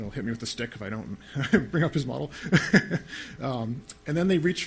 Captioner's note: laughs